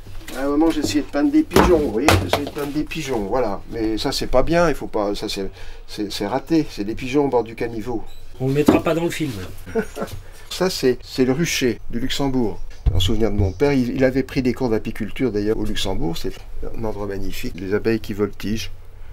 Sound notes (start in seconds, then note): 9.6 laughs